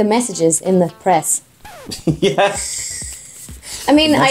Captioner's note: laughs